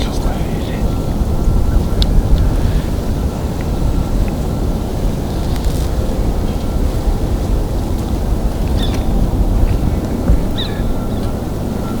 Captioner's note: sound of background noise, road noise